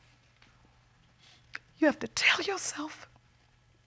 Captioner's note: voice breaks